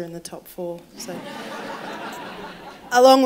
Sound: laughter

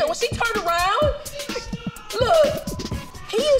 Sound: woman in video screaming

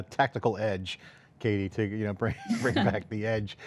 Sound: both laugh

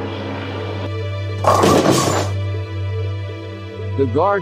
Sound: bowling strike

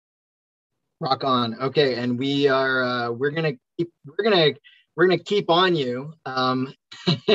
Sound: laughs

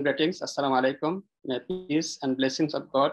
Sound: speaks in foreign language

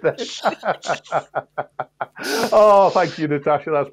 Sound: laughter

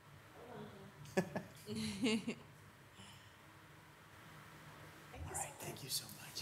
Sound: laughing

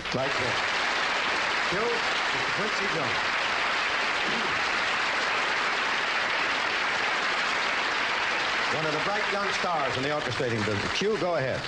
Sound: applause

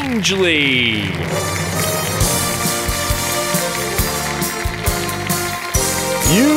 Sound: applause

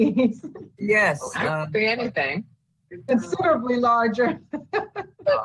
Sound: laughs

